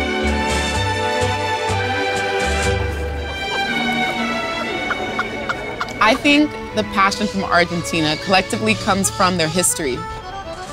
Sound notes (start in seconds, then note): 0.2 lively tango music; 3.9 guffawing